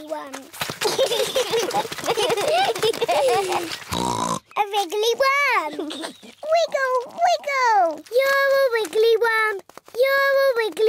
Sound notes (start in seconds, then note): 0.8 both giggling; 3.9 oinks